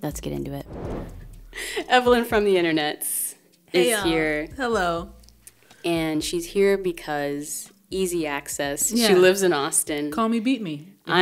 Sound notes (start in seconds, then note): 0.6 air whooshing